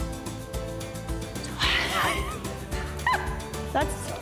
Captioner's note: exhales sharply, chuckles